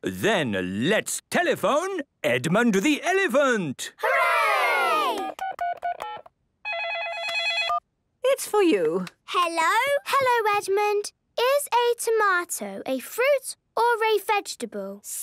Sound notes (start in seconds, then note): 5.2 dial tones beeping; 6.7 ringing